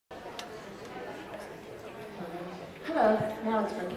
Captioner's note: audience chattering